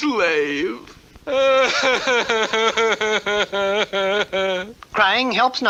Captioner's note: King Cup cries hard